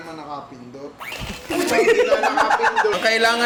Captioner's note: laughs